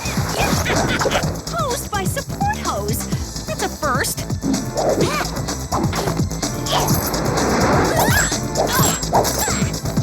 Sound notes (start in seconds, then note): 0.1 suspenseful music; 4.8 grunting; 6.6 laughs